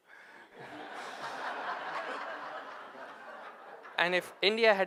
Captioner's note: audience laughing